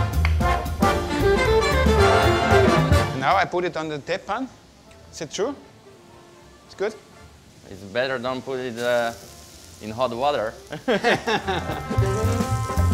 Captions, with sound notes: Now I put it on the tepan? Is that true? It's good? It's better not to put it in hot water (laughing)